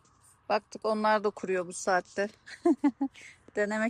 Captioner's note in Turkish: kahkaha